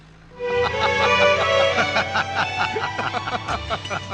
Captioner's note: both Laughing